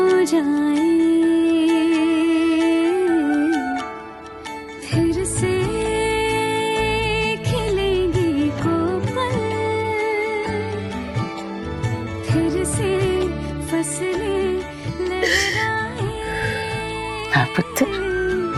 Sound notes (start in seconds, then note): 15.2 sobbing